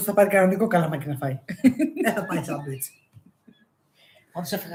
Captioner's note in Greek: γέλια